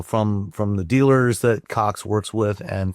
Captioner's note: none